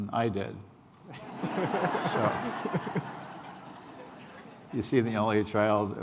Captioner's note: laughter